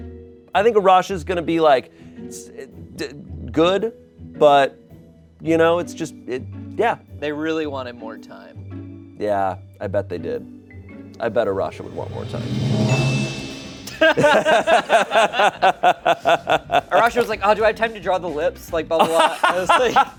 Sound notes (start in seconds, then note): 11.7 bell chimes; 14.0 everyone laughs